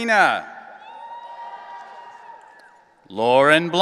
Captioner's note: audience cheering